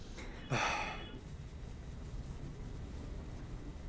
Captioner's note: suspiro